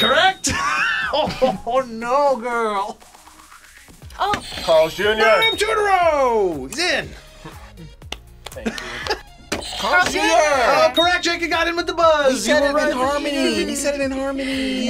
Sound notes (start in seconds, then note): 0.4 laughs; 8.0 claps; 9.8 buzzer rings